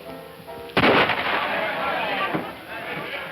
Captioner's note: loud gunshot